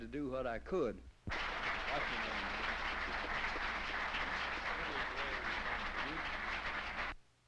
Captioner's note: applause